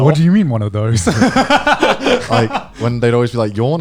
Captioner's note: laughing